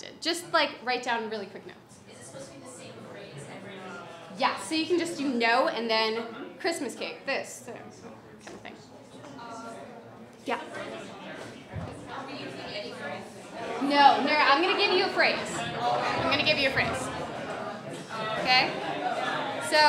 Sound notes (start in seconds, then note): 2.2 voiceover; 12.3 voiceover